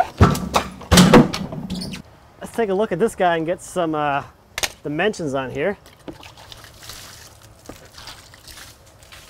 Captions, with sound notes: (banging) Let's take a look at this guy and get some dimensions on here. (splashing)